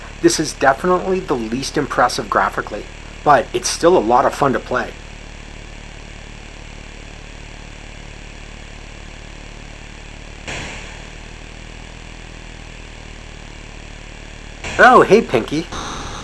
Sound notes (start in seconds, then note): 10.1 gun shot